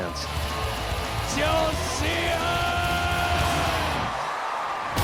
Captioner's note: speaking japanese; cheering